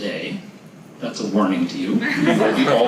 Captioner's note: audience laughs